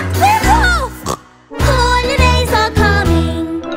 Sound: snorts

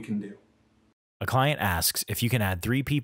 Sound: voiceover

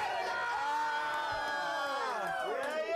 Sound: applause

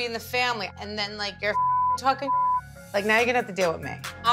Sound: beep

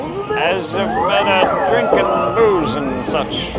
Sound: drunk guy impression slurring

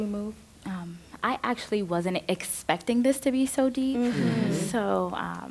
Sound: others agreeing

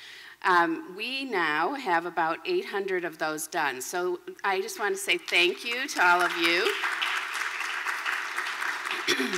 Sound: applause

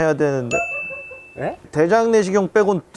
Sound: hahahahahahahahahaha

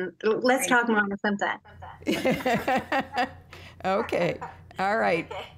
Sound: laughter

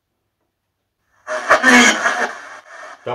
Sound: female spirit voice

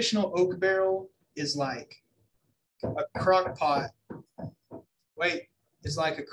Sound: person knocking

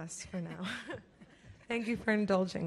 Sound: laughs

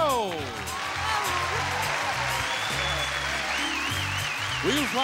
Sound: audience applauding

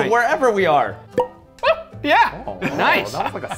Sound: cork pops

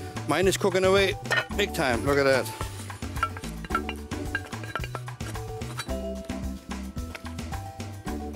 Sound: tapping

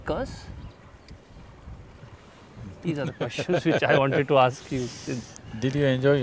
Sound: Sadhguru laughs

